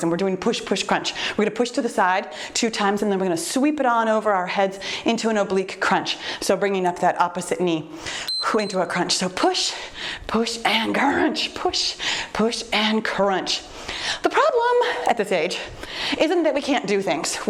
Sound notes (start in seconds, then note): 8.2 timer beeps